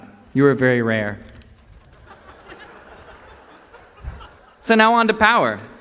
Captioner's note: laughter